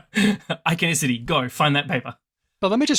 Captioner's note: laughs